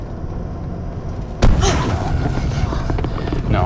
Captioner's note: Lucy gasps; tire blows; tire rattling